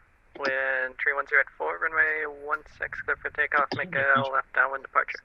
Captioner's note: radio chatter